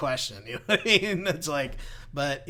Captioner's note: laughs